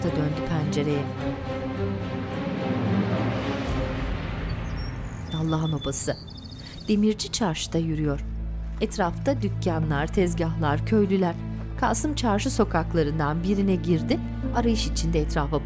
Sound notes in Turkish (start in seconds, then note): 4.3 Kuş cıvıltısı sesi